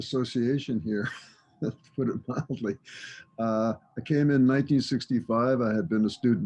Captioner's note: laughs